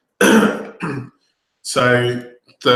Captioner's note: coughing